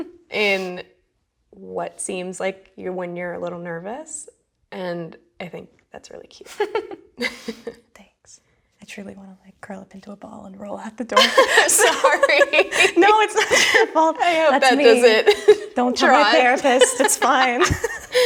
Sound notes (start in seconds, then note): 6.4 laughing; 11.9 laughs